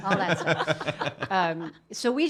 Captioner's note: laughing